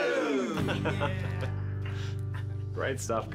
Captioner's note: laughter